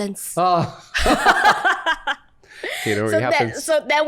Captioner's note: laughter